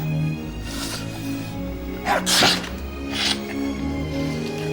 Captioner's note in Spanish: estornudos; música acústica suave